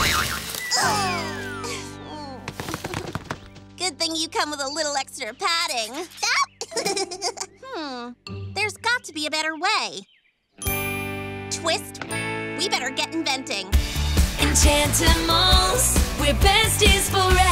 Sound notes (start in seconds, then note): 0.0 leaves rustle; 1.3 groaning; 5.9 giggling; 9.7 ding!